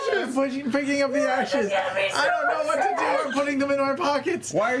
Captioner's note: shouting